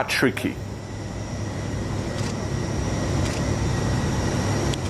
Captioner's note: aeroplane engine